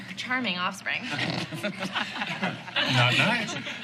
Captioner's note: everyone chuckles lightly